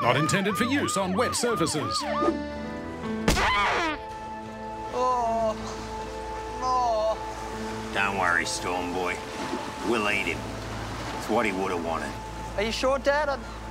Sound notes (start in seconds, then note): 3.3 thud; 3.4 pelican squawk